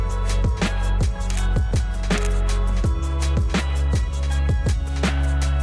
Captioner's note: camera snaps pictures